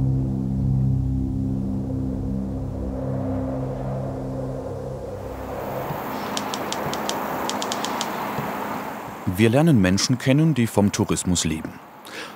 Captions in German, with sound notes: (Brausen des Windes) (Schreibmaschinengeräusche) Wir lernen Menschen kennen, die vom Tourismus leben.